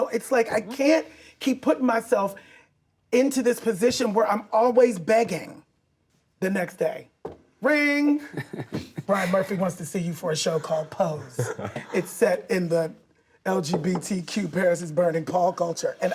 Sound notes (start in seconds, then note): 8.2 actor laughs